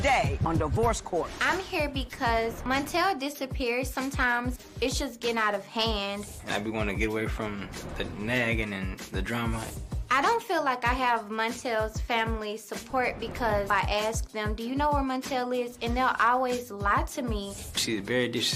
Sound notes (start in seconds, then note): none